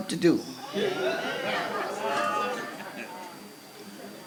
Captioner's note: crowd laughs